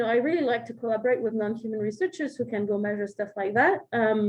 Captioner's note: none